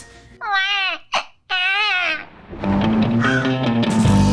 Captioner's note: imitates baby crying; upbeat music